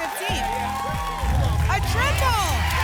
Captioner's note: rumbling sounds